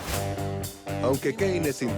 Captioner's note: net swishes